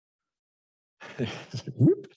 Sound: laughs

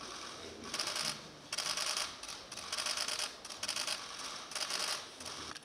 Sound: camera clicks

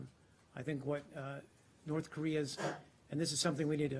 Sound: sneezing

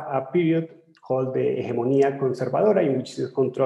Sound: speaking in foreign language

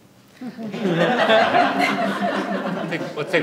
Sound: audience laughs

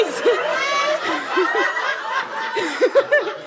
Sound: audience laughter

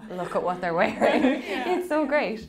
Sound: laughing

